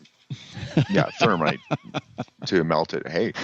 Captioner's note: laughs